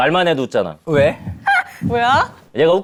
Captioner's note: excited